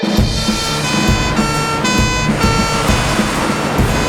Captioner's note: sirens Wailing